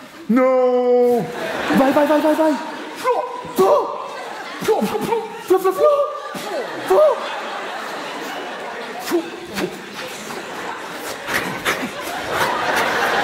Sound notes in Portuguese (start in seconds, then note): 4.5 ruídos de luta